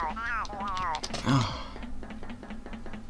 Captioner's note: grunt of disgust